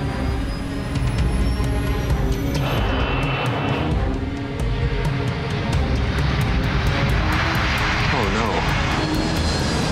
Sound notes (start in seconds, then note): 0.1 tense dramatic music; 6.3 engine whooshing